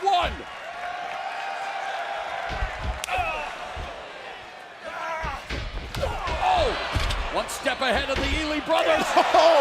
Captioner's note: crowd chatter